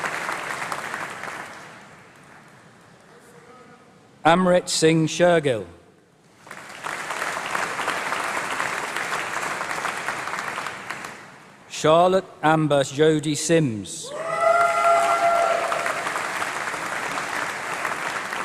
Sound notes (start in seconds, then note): 0.0 applause; 14.2 applause